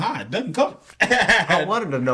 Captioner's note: laughing